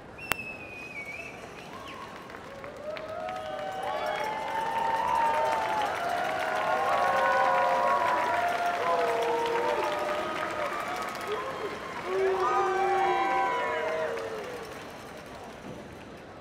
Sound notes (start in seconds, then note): 4.6 cheers and applause